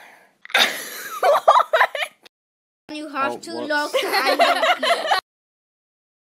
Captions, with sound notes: (laughs) Whaat You have to look- Oh, whoops (laughter)